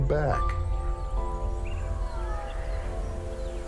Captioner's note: birds chirping